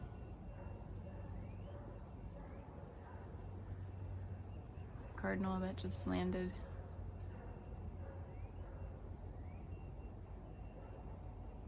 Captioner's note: dog barking